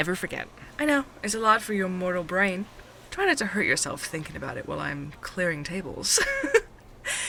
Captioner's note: laughs